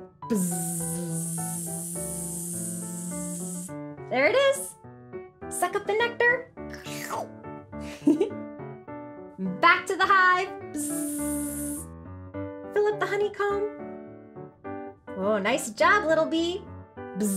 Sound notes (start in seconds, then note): 0.3 buzzing; 7.2 slurps; 7.9 giggles; 10.8 buzzing